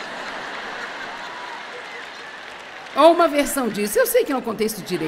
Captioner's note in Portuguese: audiência ri